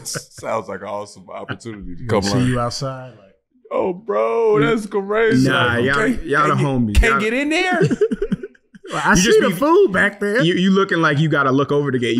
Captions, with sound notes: - Sounds like an awesome opportunity. - See you outside, like... - Oh, bro. That's crazy. - Nah. Y'all are homies. - Can't get in there? (laughing) I see the fool back there. - You looking like you gotta look over the gate.